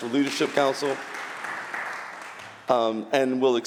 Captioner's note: applause